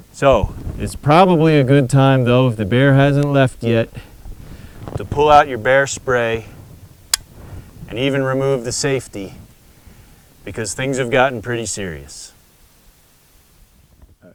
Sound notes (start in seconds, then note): 7.1 click